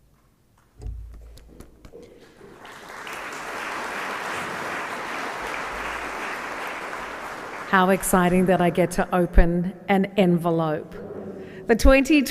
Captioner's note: applause